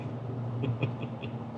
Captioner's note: chuckling